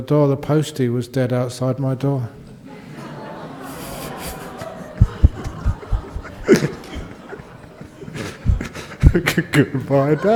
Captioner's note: laughter